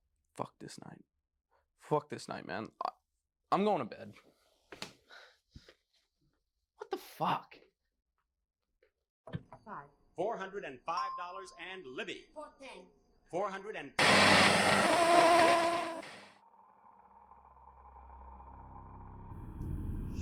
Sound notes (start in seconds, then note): 9.1 TV switched on, background TV noise; 14.0 television static noise; 16.9 eerie sounds